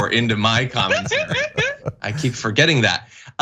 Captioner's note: laugh